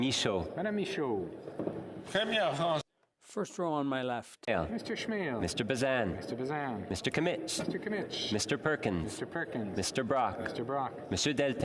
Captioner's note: calling of recorded vote